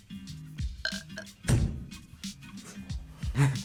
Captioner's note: burps; both laugh